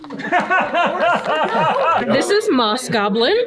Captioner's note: participant laughing